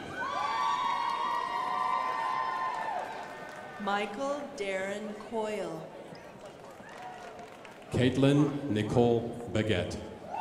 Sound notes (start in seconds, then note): 0.0 crowd applauding; 6.2 crowd applauding